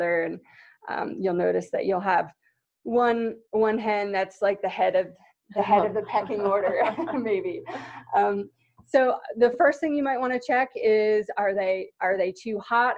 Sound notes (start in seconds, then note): 5.8 laughter